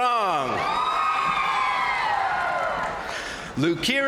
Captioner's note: crowd cheering; crowd applauding